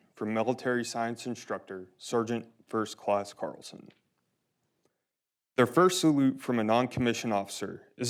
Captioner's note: none